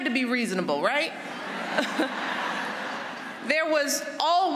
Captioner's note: laughter